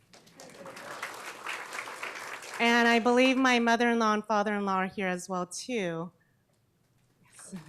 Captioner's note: applause